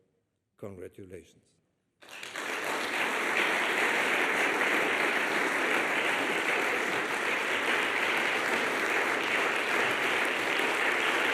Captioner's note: applause